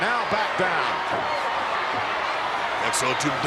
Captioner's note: crowd shout